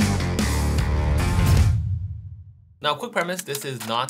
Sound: deep whooshing

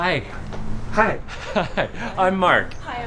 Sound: laughing

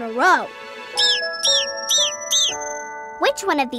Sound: squawking

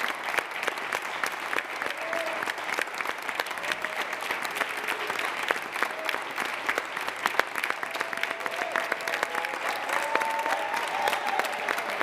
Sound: applause

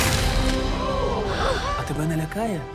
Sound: crowd gasping

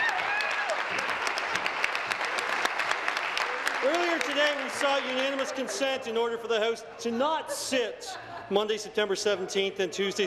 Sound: applause; laughter

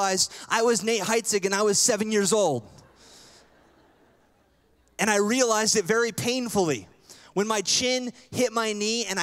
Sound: laughter

